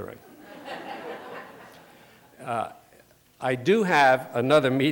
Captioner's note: laughter